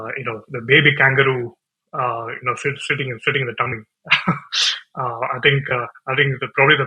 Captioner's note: laughs